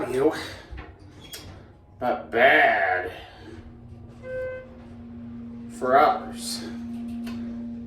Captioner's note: elevator beeps